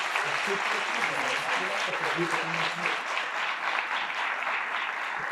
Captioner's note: participants applauding